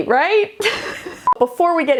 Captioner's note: laughing